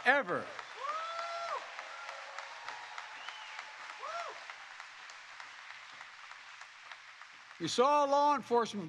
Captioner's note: applause